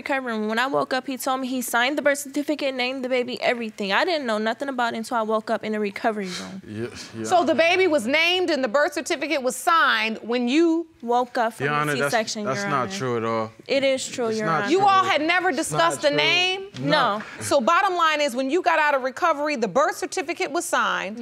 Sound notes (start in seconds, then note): 6.2 stammering